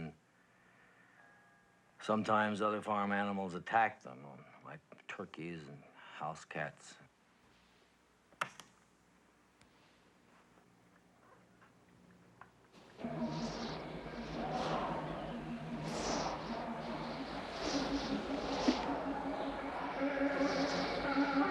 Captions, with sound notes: AND SOMETIMES OTHER FARM ANIMALS ATTACK THEM, LIKE TURKEYS AND HOUSE CATS. [WIND GUSTING] [DISCORDANT GUITAR PLAYING]